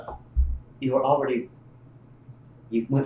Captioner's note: laughs